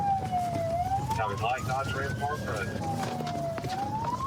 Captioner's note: sirens wailing